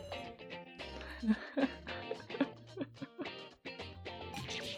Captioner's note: laughs